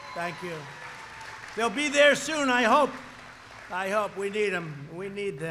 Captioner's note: applause